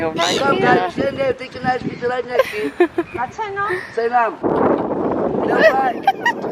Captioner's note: man speaks foreign language